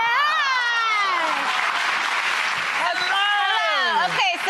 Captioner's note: audience applause